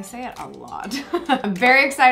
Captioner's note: chuckles